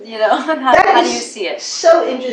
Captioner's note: laugh